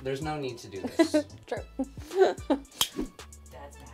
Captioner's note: laughing